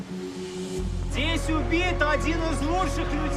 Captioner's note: speaking Russian